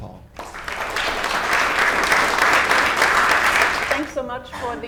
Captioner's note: audience applause